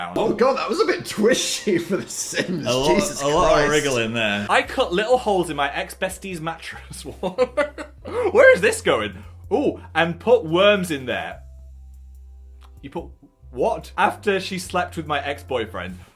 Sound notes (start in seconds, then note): 7.1 laughs